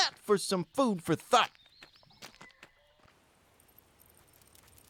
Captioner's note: footfalls crunching; dog tags jingling; swift padding